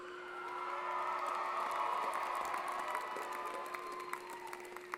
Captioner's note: applause & Cheering